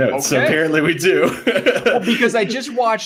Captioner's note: laughing